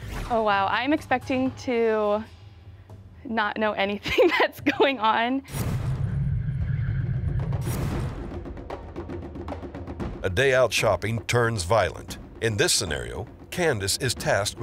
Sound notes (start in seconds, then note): 4.0 laughs; 5.6 rhythmic drums beating